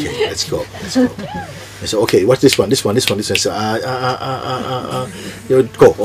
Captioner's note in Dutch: vingerknip